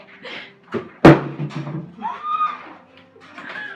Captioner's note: water bottle lands; chuckles